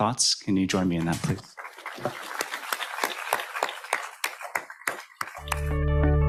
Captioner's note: audience applauding